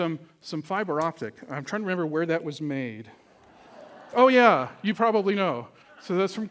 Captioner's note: laughter